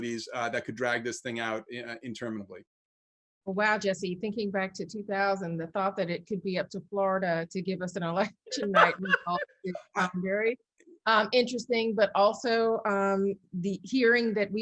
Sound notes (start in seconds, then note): 8.4 laughs; 8.6 audio warbles